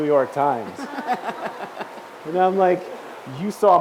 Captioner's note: laughs